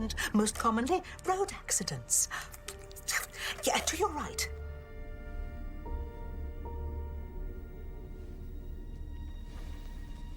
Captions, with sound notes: AND MOST COMMONLY, ROAD ACCIDENTS. ( clicks tongue ) YEAH, TO YOUR RIGHT.